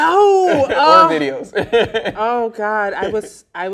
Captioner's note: laughing